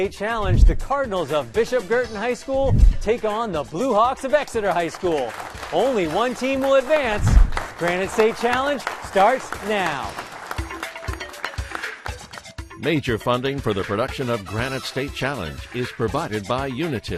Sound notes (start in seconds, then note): 4.9 applause; 9.4 theme music